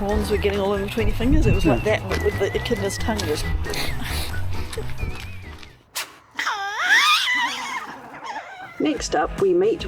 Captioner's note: laughing